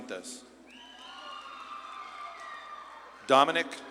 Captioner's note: audience claps and cheers